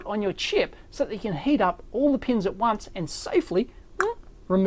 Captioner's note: makes popping sound